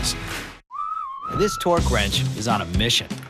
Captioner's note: AutoZone whistle